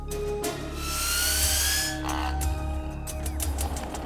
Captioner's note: toy whistling